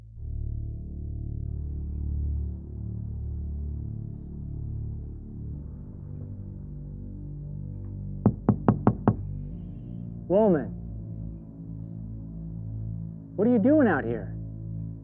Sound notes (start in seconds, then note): 0.8 tense music; 8.2 Mr. Batson knocking